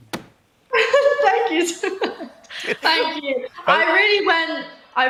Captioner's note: laughs